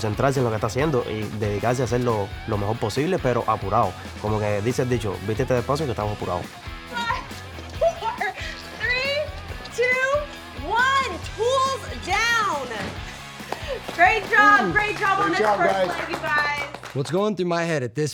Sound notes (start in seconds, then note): 13.4 clapping